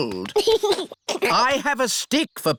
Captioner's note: giggles